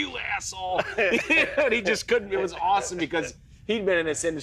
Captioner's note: laughs